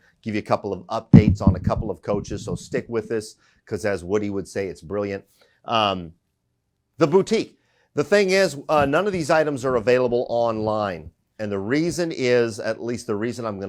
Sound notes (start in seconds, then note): none